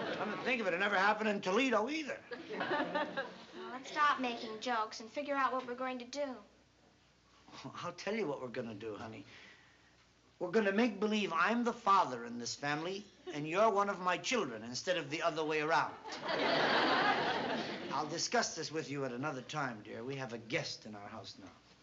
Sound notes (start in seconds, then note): 16.0 laughter